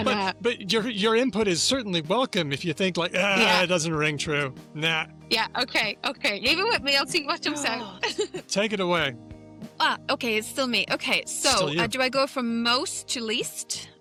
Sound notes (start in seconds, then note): 7.6 laughs